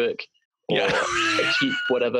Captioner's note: laughter